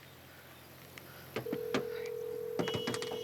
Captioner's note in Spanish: sonido al marcar